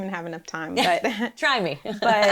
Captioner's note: laughs